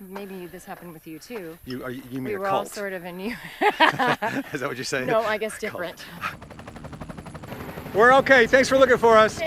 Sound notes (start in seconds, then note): 3.2 both laughing; 6.7 helicopter whirring